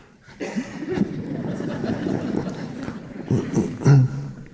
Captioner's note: audience laughing